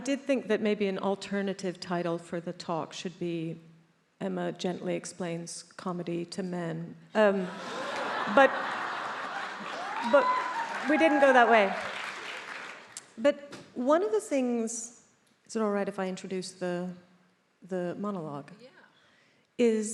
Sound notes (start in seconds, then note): 7.4 attendees laughs; 11.8 attendees applauding